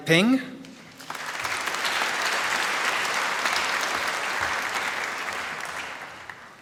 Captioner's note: applause